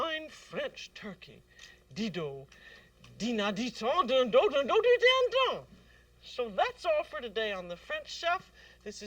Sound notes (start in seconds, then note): 1.7 speaking french